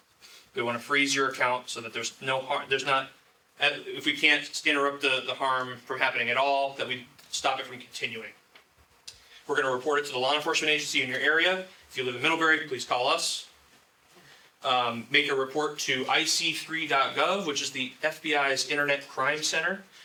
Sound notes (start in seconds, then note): none